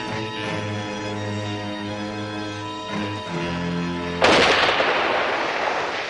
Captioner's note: gun shot